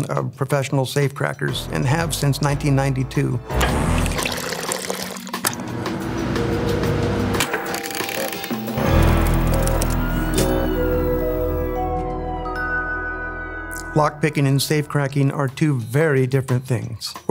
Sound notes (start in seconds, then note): 3.9 coffee gurgling; 5.5 fan whirring; 7.5 television static crackling; 9.8 police siren blaring